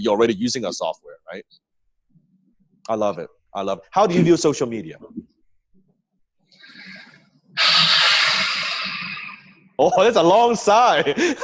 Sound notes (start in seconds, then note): 7.4 sighs; 11.2 laughs